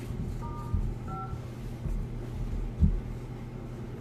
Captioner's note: phone dialing